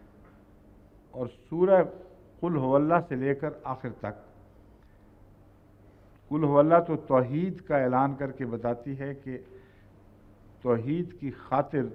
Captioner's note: Arabic